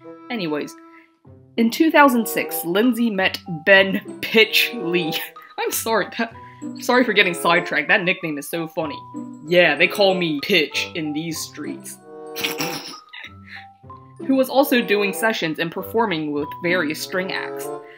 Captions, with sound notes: Anyways... "In 2006 Linzi met Ben 'Pitch' Lee..." (laughs) I'm sorry, that - (laughs again) Sorry for getting sidetracked, that nickname is so funny. (imitating Ben) "Yeah, they call me 'Pitch' in these streets." (dies of laughter) "... who was also doing sessions and performing with various string acts.